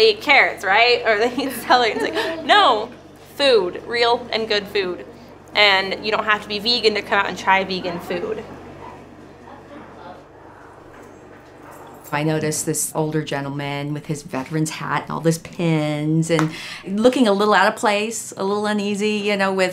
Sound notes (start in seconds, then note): 12.6 voiceover